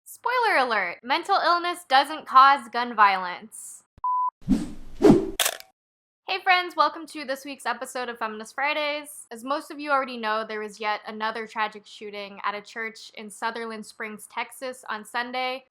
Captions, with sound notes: Spoiler alert! Mental illness doesn't cause gun violence. [BEEP SWOOSH SWISH CRUNCH] Hey friends. Welcome to this week's episode of Feminist Fridays. As most of you already know there was yet another tragic shooting at a church in Sutherland Springs, Texas on Sunday